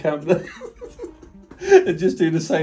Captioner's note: both laughing